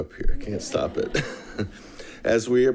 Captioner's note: chuckles